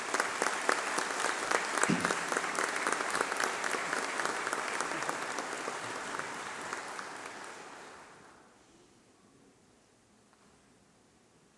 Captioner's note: applause